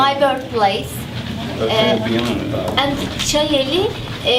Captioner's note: speaking in native language